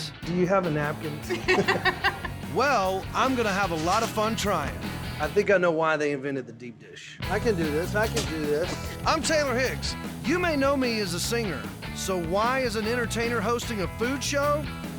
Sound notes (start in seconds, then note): 1.2 laughter